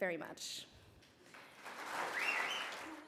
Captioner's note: cheering and applause